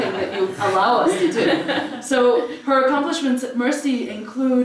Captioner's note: laugh